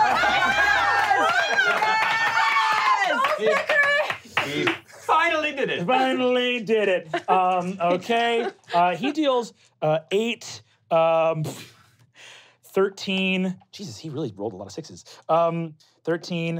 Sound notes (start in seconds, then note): 0.0 screaming; 4.5 clapping